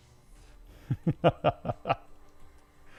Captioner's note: laughing